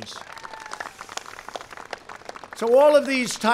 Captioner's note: applause